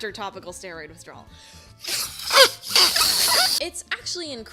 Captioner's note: blowing aggressively